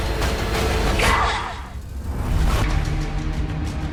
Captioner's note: Anya grunts; slow dramatic music